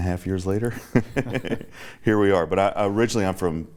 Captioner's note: laughs